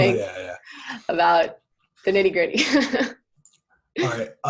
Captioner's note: laughter